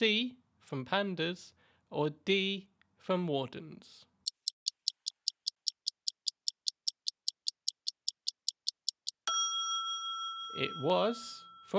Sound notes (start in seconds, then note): 4.2 ticking Sound; 8.8 ding